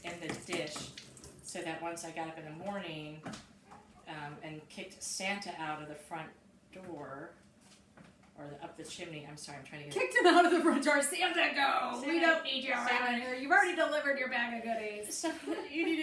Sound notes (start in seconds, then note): 10.7 laughing